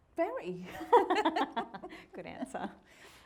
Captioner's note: both laughing